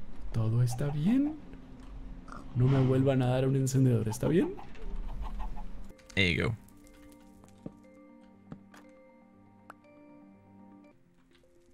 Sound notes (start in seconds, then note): 6.0 in English